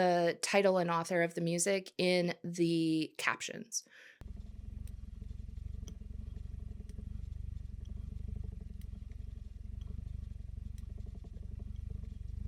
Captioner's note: spinning Wheel Purring Sounds